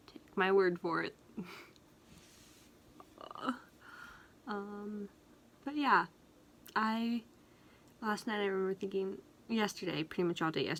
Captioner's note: laughs